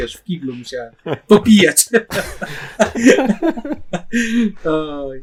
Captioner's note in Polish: śmiech